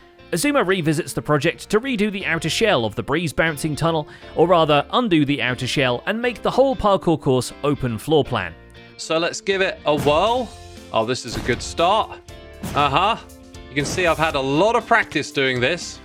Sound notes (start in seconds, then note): 11.3 mace impacts